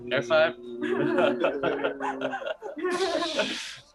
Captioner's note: laughs